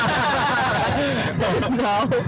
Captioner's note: laughing